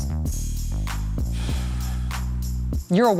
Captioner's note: sighs